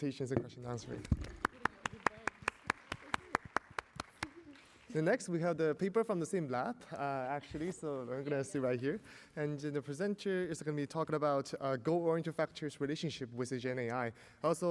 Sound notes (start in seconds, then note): 0.9 applause